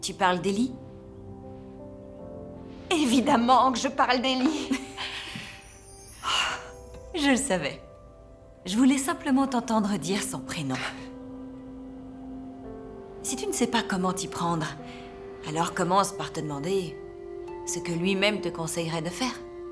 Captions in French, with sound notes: - Avec Eli ? - Bien sûr avec Eli ! (rires) (soupirs) - Je sais. Je voulais juste te faire que tu dises enfin son nom à nouveau. Si vous ne savez pas comment commencer avec Eli, demandez-vous simplement quel conseil il donnerait vous donnerait à ce sujet.